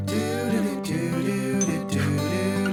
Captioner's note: upbeat music; bell dings; upbeat music